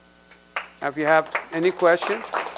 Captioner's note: audience applause